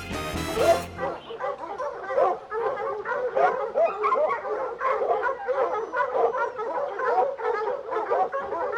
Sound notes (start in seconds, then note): 0.5 dogs barking